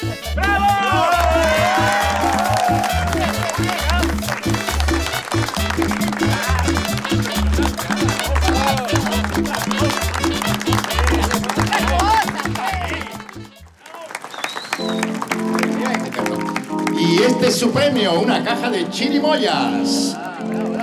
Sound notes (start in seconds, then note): 2.1 applause; 13.8 applause